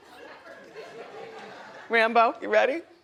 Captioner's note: audience chuckles